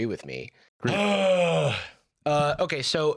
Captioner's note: Jarvis groans